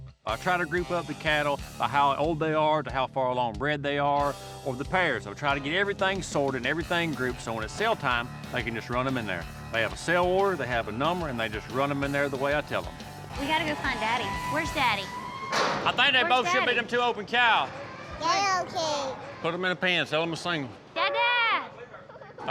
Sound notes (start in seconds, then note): 17.4 babbles